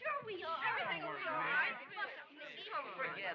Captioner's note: clamor of voices